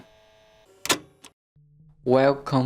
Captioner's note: audio tape stops